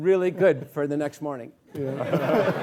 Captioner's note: laughing